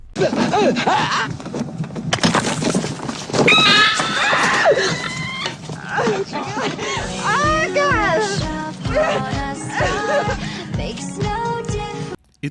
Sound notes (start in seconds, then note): 0.2 distressed yelling; 3.4 scream; 3.4 Alien chestburster screeching; 6.8 screaming continues while plays